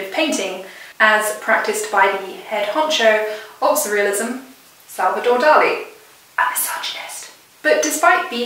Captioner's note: whispering